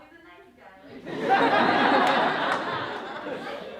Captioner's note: laughter